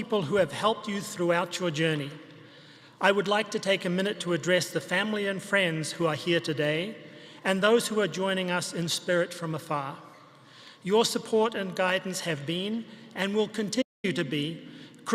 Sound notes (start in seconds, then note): none